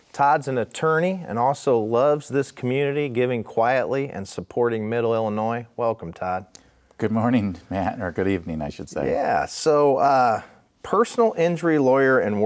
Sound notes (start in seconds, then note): 7.0 laughing